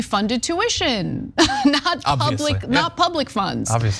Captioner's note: laugh